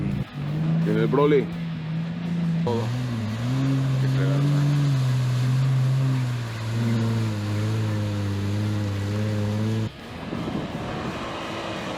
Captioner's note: engine revving